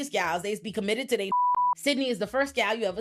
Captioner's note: beep